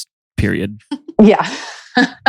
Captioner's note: laughs